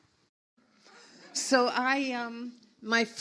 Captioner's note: audience laughs